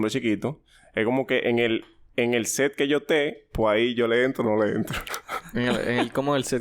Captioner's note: laughs